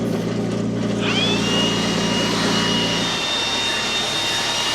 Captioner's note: blower whirring